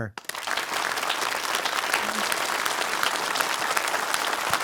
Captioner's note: audience applauding